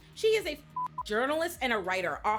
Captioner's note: beep